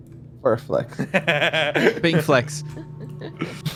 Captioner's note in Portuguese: risada